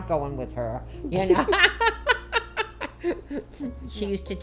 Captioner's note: laughing